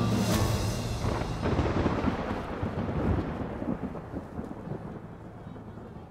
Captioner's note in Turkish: Gök gürültüsü efekti